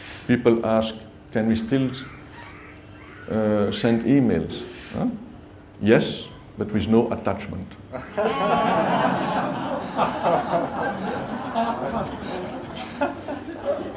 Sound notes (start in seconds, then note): 8.0 much laughter